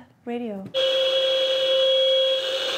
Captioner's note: blaring radio noise